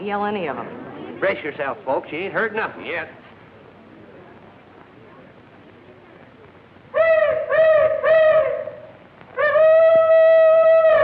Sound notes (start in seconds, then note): 6.0 hollering